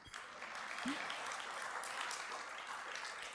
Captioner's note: applause